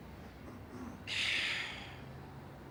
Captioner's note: sighs